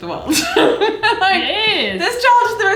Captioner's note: laughs